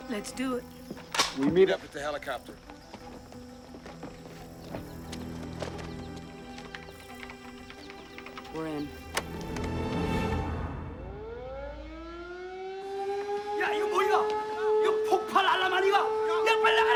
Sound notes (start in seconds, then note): 10.5 alarm Blaring; 12.4 Korean; 16.7 men Shouting In Korean